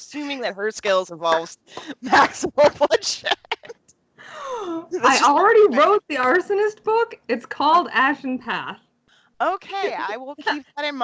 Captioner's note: laughs